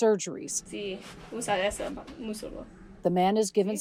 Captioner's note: doctor speaking in foreign language